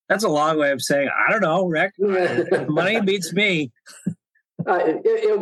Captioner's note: laughter